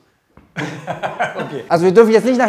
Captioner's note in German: Lachen